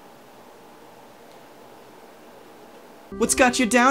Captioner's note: heavy white noise